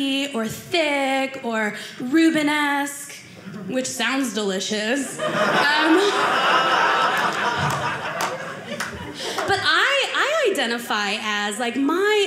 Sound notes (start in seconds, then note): 5.1 audience laughing